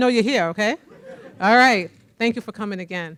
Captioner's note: audience laughing